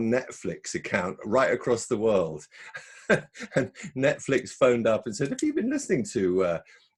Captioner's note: laughs